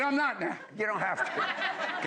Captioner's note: laughter